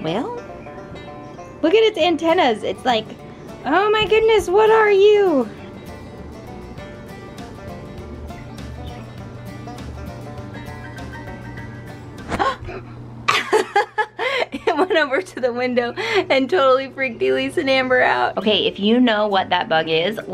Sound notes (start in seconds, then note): 6.0 twangy lively music; 12.3 laughs; 12.4 gasps